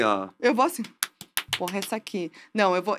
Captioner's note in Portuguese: palmas